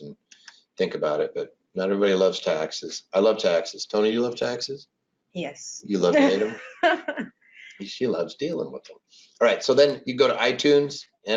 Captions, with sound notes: and think about it, but not everybody loves taxes. I love taxes, Toni do you love taxes? - Yes. (laughs) - You love them. She loves dealing with them. All right, so then you go to iTunes,